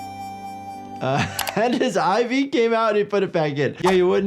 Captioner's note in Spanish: música suave; risas